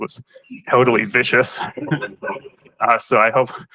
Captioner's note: laughter